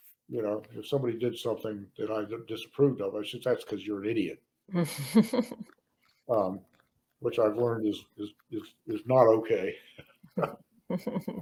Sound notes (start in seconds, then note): 4.1 laughs; 10.3 laughs